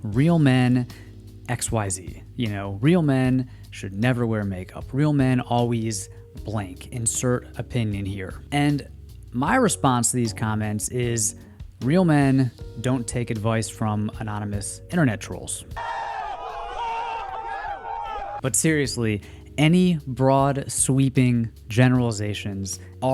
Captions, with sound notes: real men, XYZ, you know, real men should never wear makeup. Real men, always, blank, insert opinion here. And my response to these comments is, real men don't take advice from anonymous internet trolls. (yelling) But seriously, any broad, sweeping generalizations